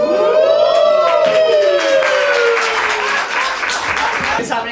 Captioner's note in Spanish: Aplauso